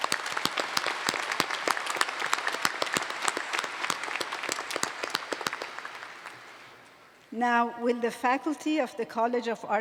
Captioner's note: applause